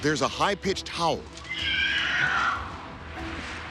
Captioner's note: screeching